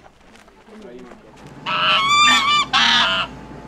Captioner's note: goose clucking